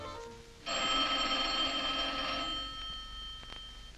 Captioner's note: phone ringing